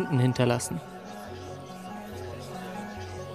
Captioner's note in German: Stimmengewirr